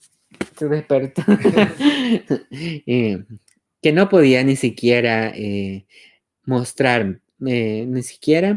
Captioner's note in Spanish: Laughs